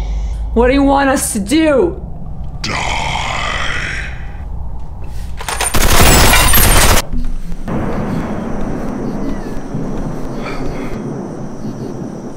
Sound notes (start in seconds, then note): 5.5 gun firing